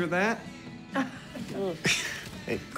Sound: chuckles

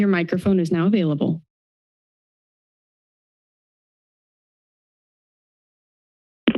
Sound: silence

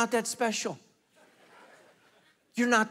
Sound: congregation laughing

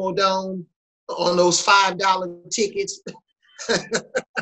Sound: laughs

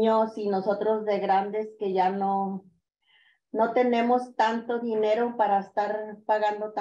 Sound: continues speaking in Spanish

